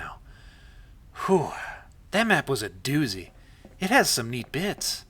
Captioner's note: exhales